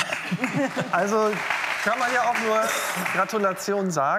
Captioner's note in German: Applaus